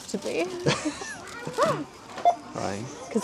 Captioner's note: laughing